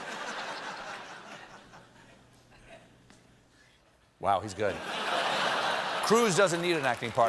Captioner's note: laughter